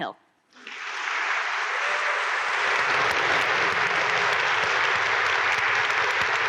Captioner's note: audience applaud